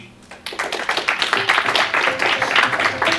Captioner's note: applause